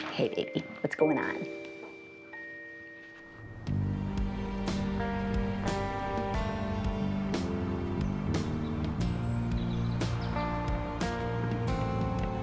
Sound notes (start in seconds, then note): 3.7 gentle upbeat music; 6.8 birds chirping; 9.1 gentle upbeat music; 12.2 birds chirping